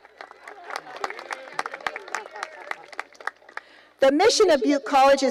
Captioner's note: applause